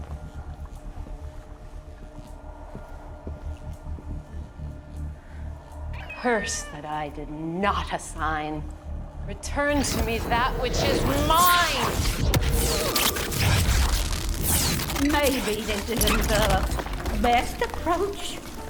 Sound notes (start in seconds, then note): 12.5 intense zapping